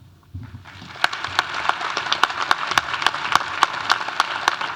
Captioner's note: audience applauding